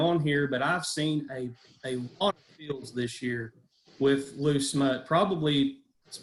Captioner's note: audio is choppy